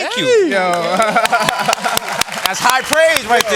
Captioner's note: applause